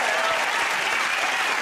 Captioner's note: cheers and applause